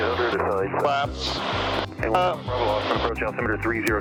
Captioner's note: loud statics